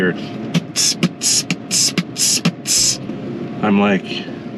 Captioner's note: makes beat with mouth